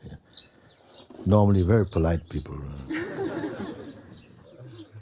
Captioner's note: laughter